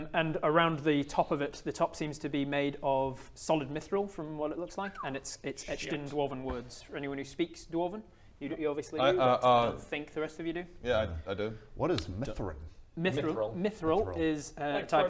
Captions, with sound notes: and around the top of it, the top seems to be made of solid mithril from what it looks like - and it's etched in dwarven words - *whistle* shit for anyone who speaks dwarven, you obviously do - Uh uh uh - I don't think the rest of you do yeah I do What is mithrin? - Mithril, mithril is a type of - Mithril